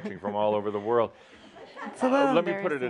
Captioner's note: some chuckles